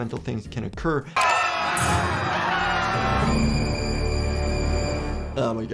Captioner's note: townspeople screaming